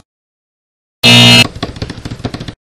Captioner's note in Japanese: バスケットボールブザーサウンド